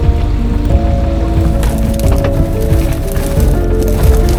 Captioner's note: foliage rustling